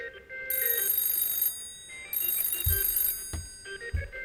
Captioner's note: whimsical music; phone ringing